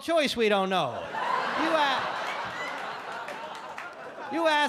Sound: audience laugh

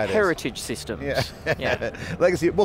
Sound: all laugh

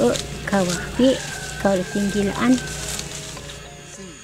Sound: rooster crowing; insects chirping

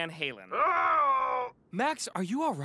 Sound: groaning

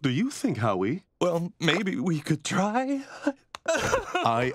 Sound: sobbing

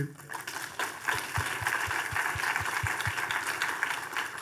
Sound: audience applauding

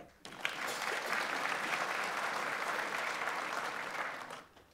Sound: audience applauds

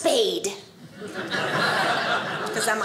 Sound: audience laughing

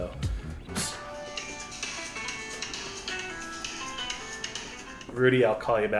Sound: phone ringing

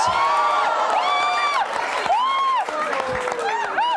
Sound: cheering

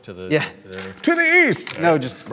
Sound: laughs

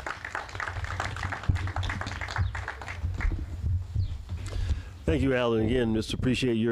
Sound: applause

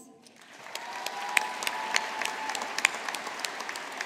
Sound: audience applauding

